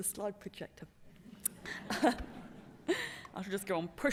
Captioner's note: laughter